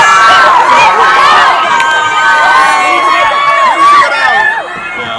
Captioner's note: people shouting